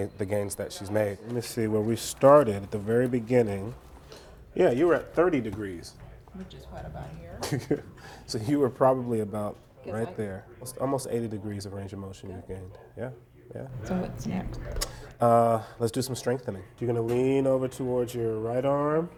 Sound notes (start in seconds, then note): 7.3 chuckles